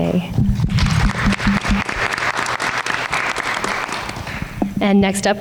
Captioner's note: everyone applauds